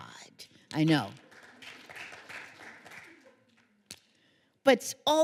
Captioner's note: applause